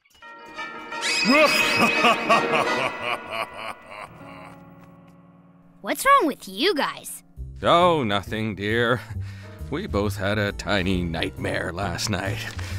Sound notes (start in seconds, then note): 1.0 maniacal laughter